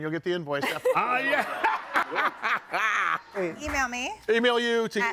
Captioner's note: laughs